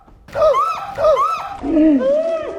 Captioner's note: gasps; shrieks; gasps; gasps in slow motion